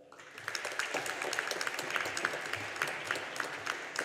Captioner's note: audience applauding